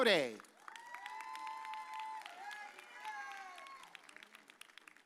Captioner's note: audience cheers